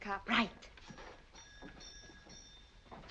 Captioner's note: bell ringing